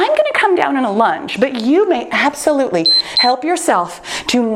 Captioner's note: timer beeps